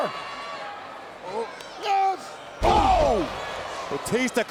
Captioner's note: wrestlers grunting